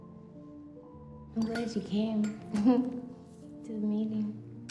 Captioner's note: laughs